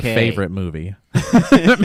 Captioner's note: laughs